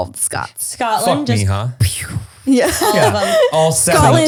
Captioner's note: laughing